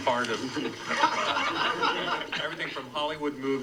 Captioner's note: audience laughs